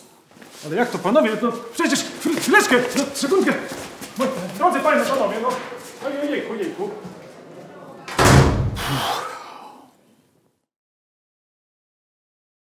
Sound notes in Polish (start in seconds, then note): 8.0 dźwięk zamykania drzwi